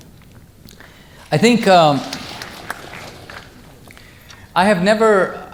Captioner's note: audience applause